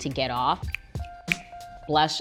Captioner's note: fingers snap